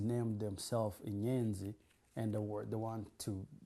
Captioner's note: non-english